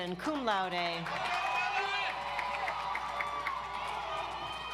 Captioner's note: audience applauds